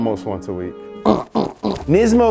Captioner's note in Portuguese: grunhindo